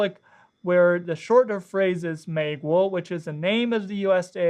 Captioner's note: speaks Chinese